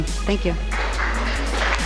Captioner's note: applause